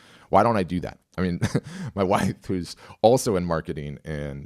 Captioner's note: chuckles